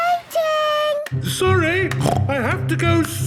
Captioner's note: snorts